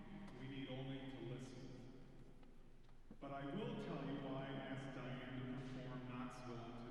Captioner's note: none